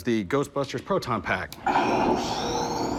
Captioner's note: sound effects